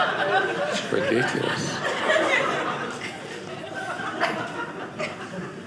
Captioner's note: audience laughing